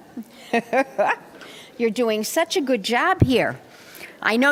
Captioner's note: laughter